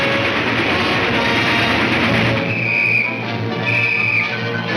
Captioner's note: whistle tweets